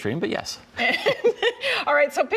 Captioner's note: laughter